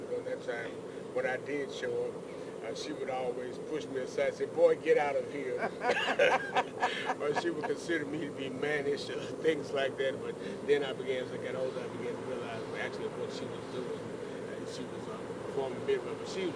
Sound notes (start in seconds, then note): 5.5 laughter